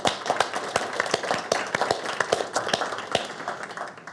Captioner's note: audience clapping